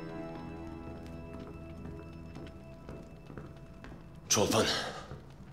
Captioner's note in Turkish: Adım sesleri